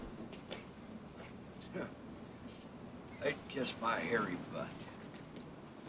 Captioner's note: scoffs